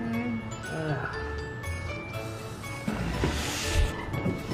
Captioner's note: groans